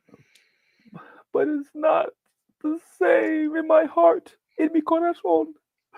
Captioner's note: crying; spanish